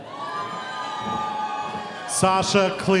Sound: audience cheering

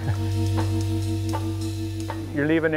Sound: laughs

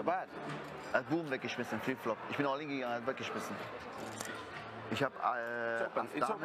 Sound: speak german

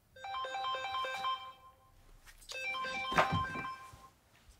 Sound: phone ringing

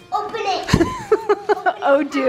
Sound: laughs

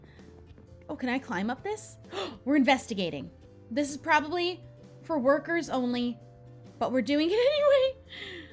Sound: gasp

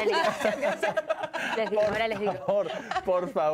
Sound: Risas

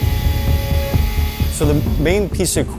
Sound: machine buzzing

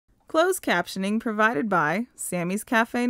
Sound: voiceover

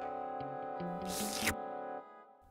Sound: slurps tongue

